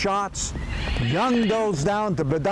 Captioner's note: horse neighing